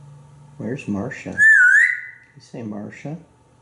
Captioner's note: whistling